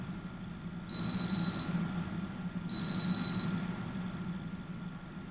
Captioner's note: phone rings